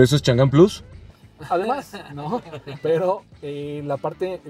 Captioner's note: laughter